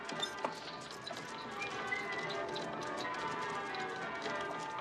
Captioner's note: WHlSTLlNG